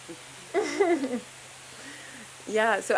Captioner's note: chuckles